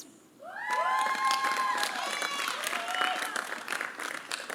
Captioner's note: applause